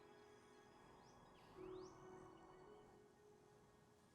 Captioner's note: birds chirping